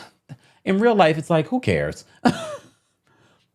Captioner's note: laughing